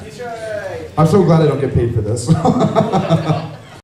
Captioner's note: chuckles